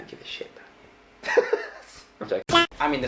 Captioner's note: laughing